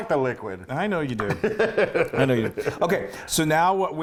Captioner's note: laugh